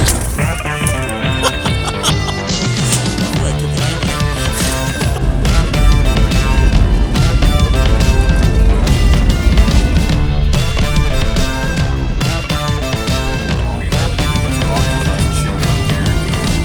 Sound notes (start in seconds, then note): 1.2 laughter